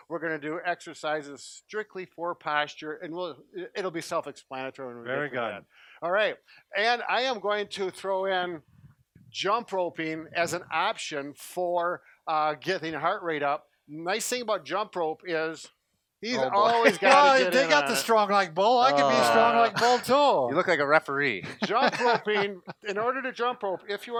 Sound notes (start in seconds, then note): 21.4 laughs